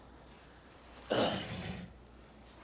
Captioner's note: clears throat